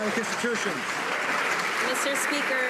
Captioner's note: some Applause